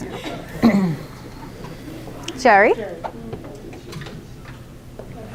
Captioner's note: clears throat